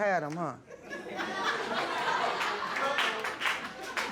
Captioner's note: audience laughing